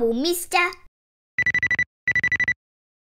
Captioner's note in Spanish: Teléfono que suena